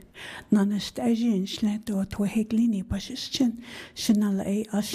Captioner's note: speaking in foreign language